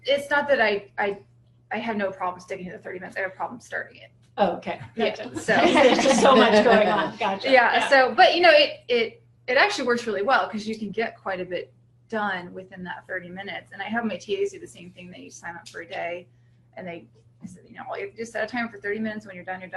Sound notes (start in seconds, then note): 4.9 laughter